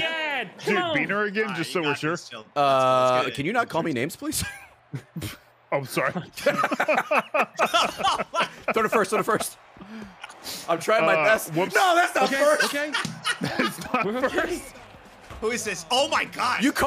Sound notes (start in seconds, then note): 6.1 laughs